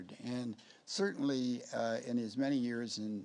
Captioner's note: none